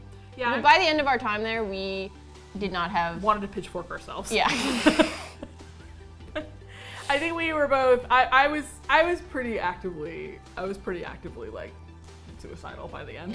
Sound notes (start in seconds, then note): 4.4 laughing